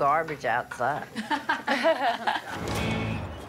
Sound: laughing

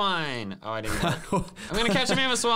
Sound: laughing

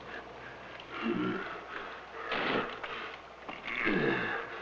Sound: grunting

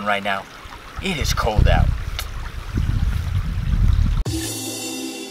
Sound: creek trickling

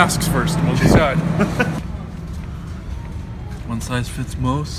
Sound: Chicken laughs

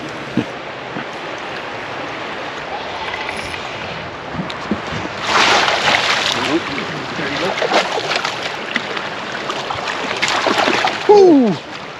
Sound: fish splashing

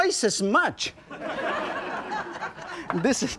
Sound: audience laughing

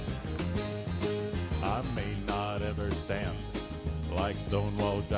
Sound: in deep bass voice

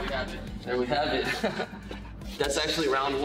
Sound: laughs

